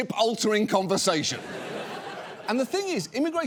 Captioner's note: audience laughs